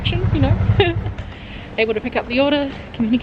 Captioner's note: laughing